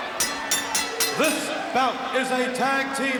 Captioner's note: bell rings